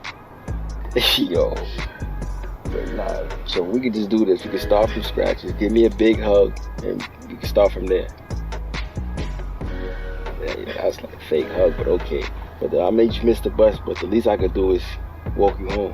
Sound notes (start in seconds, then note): 2.1 chuckles